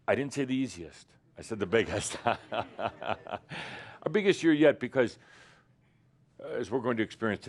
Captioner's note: Adamus chuckles